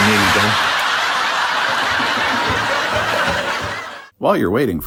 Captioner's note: laughter